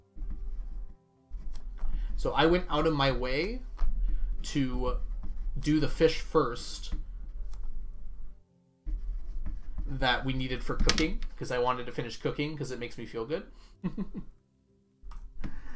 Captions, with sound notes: So, I went out of my way to do the fish first that we needed for Cooking because I wanted to finish Cooking because it makes me feel good. (chuckles)